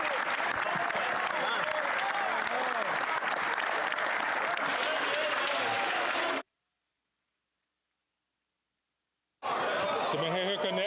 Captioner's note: cheering